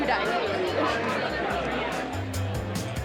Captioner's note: chattering; upbeat instrumental